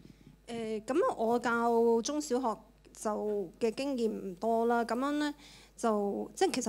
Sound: Cantonese

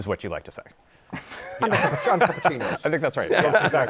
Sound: laughter

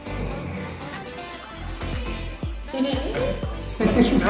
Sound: snorts; exclaims in confusion

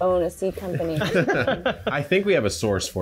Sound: chuckling

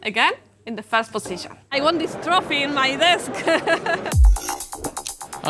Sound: laughing

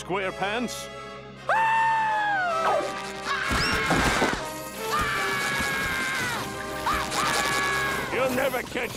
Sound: screaming

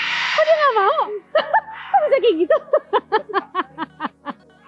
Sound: chuckled

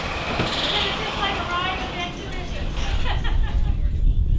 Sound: laughs

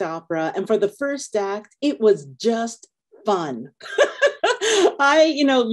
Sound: laughing

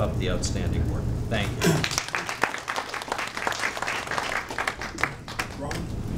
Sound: audience applauding

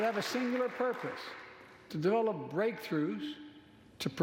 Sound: applause

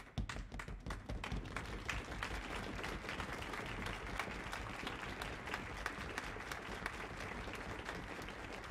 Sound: applause

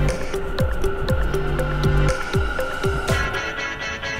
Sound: train whooshes; upbeat music

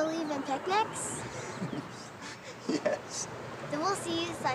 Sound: laughing

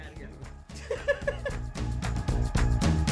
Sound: laughs; energetic music

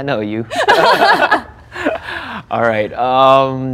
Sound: both laughing

